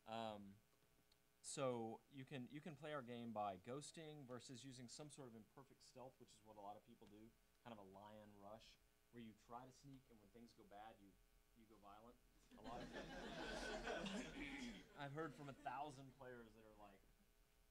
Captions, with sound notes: You can play our game by ghosting versus using some sort of imperfect stealth, which is what a lot of people do, kind of a lion rush where you try to sneak and when things go bad, you go violent. (audience laughing) I've heard from a thousand players that are like,